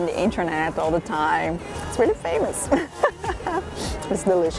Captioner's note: laughs